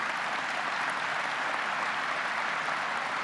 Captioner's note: applause